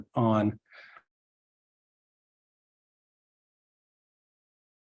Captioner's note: audio cuts out